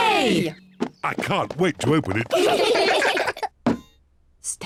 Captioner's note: all giggle